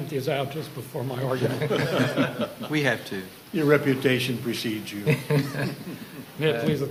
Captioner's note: laughter